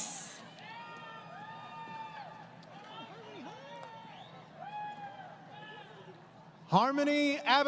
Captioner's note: crowd Cheering